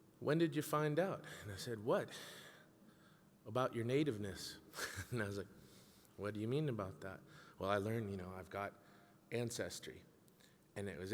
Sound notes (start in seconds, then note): 4.7 laughing